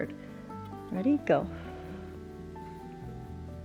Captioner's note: exhales